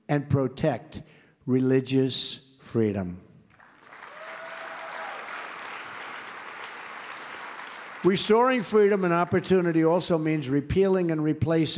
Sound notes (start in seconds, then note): 3.5 applause